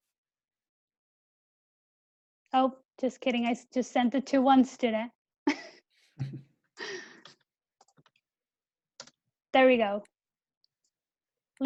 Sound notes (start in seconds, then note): 6.2 laughs